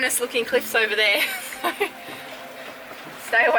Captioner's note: laughing